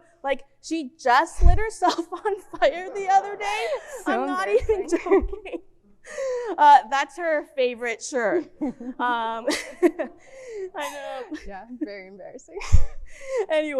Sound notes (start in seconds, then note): 8.6 both speakers laughing